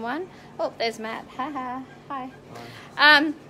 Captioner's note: laughs